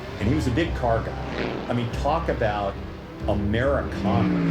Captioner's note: cars roar